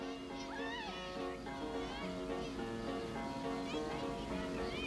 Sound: girls shouting happily

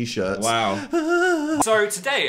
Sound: whimpers

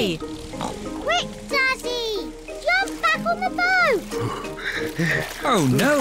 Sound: panting

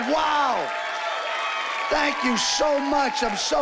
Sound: cheering and applause

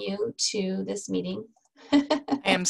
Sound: laughs

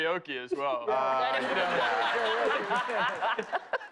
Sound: laughter

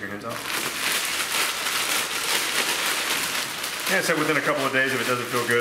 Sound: bag rustling

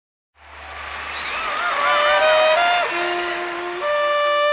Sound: Gritos y aplausos

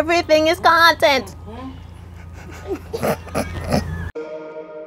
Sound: giggling

